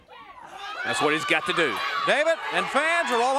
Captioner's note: crowd cheering